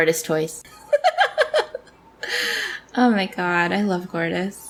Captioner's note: laughs